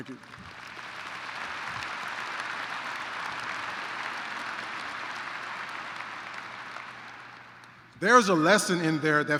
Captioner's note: applause